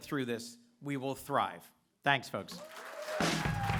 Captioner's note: applause